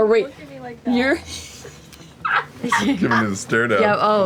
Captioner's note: laughs